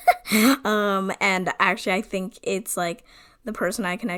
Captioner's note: laughs